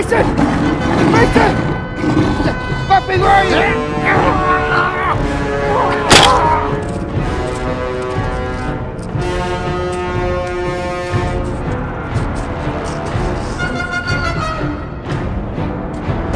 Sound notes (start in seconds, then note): 3.9 intense music; 6.1 Smack down sound by Bumpy's tail; 8.4 intense music